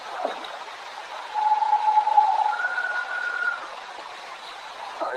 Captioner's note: audio whirs